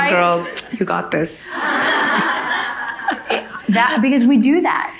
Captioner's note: audience laughing